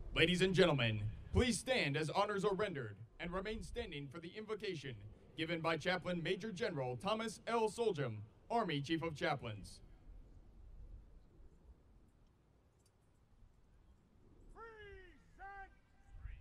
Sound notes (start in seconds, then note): 11.8 soldiers shouting commands